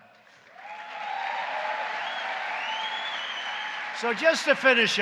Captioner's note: applause